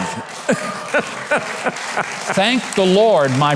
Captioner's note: audience laughing; audience clapping